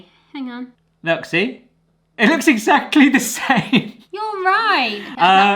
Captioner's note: laughter